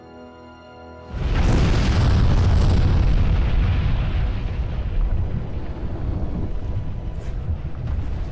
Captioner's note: explosions